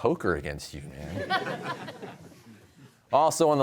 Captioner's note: laughter